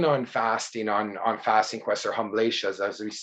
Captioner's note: speaking in a foreign language